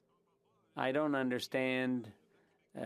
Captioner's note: speaking FRENCH